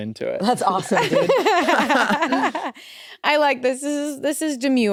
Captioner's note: laugh